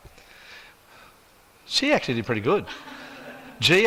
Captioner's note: audience chuckles